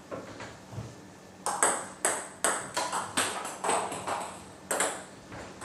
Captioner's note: balls ping pong hitting